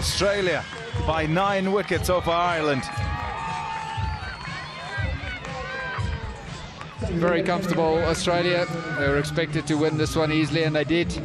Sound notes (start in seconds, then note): 6.3 तालियाँ